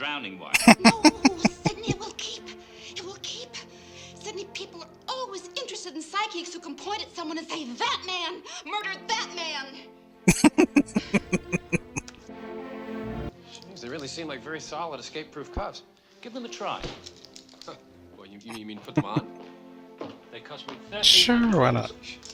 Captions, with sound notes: [Laughing] [Laughing] [Chuckling] Sure, why not?